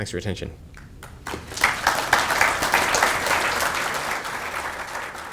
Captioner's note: audience clapping